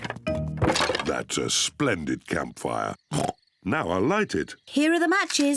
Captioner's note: oinks